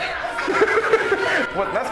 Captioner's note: laughing hysterically